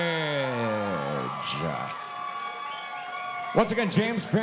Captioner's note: audience cheering